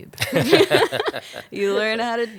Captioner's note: both laughing